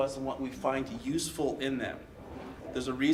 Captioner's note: none